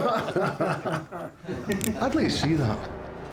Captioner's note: everybody laughs; gun clicks, scottish accent